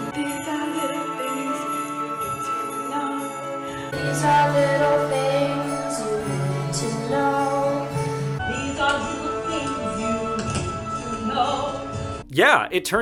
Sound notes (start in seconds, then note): 6.8 sleigh bells in background